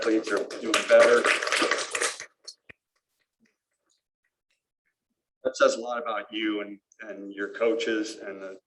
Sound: applause

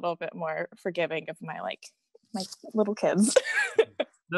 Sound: laughs

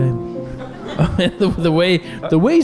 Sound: laughing

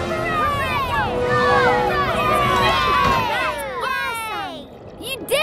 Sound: cheering

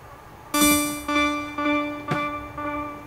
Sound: echoing

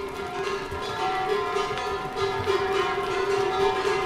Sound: ringing the cowbells

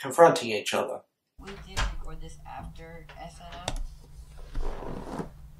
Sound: door Opens

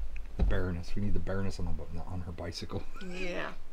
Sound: giggling

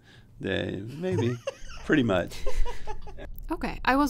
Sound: laughter

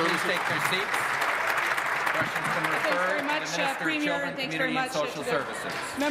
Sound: applause

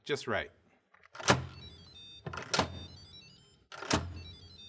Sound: Instant Pot beeps

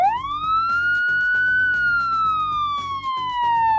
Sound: siren blaring

